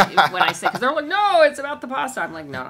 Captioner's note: laughs